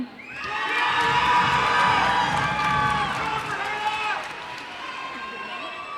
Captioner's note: cheers and applause